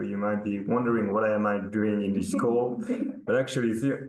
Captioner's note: participant laughing